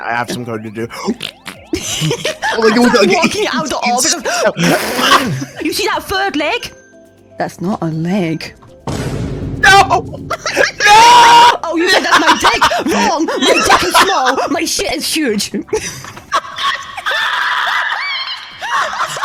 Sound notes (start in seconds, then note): 1.0 loudly shidding; 8.8 vineboom